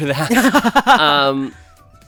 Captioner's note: laughs